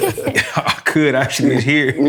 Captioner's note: laughter